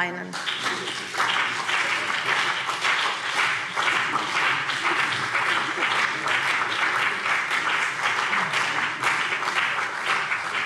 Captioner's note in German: Beifall CDU und BÜNDNIS 90/DIE GRÜNEN